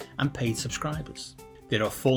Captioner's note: breathe